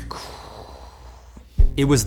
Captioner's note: sighs pitifully